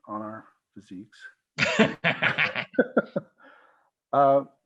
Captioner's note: laughter